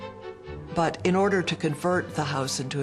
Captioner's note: lighthearted orchestral music; voiceover